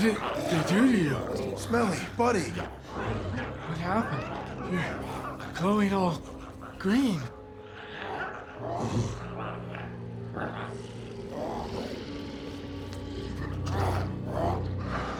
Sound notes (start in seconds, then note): 8.6 Smelly grunts; 10.8 glowzies growling